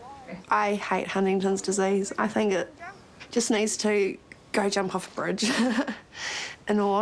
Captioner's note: laughs